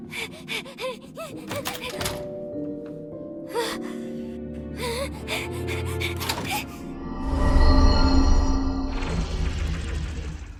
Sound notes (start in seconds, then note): 0.1 panting frantically; 4.8 panting